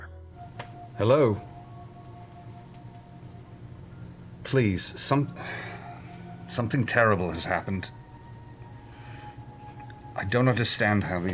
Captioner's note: sighs